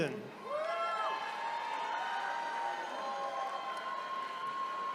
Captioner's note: attendees cheering